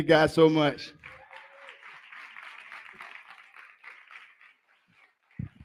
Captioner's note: applause